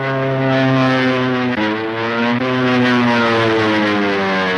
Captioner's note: engines roaring